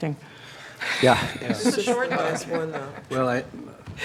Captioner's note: laughter